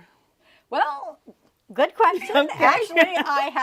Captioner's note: laughs